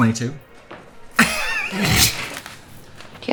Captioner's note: laughs